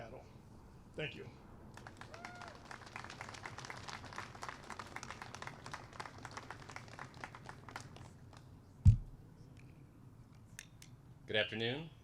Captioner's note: applause